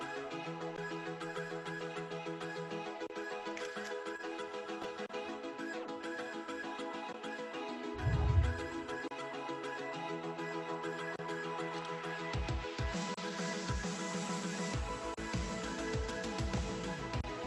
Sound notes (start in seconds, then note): 3.6 camera shutter clicks; 8.0 air whooshes